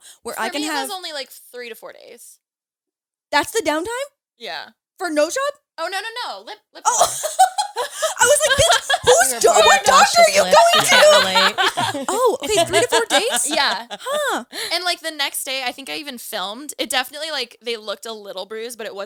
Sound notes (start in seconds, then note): 6.8 laughs; 11.6 all laughing